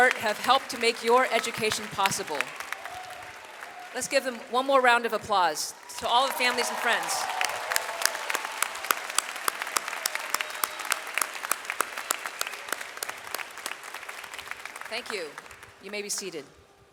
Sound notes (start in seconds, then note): 7.2 audience applauds